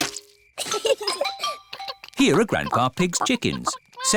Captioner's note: both giggle